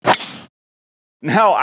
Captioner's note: golf ball thwacks